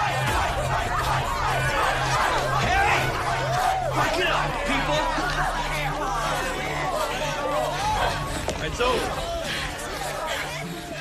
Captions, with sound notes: Hey! Break it up, people. [students clamoring] It's over.